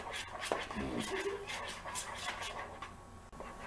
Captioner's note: laugh